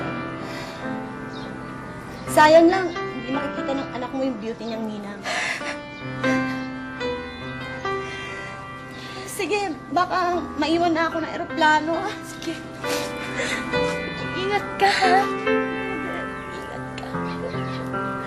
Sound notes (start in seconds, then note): 5.3 chuckles